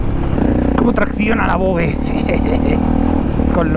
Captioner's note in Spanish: risas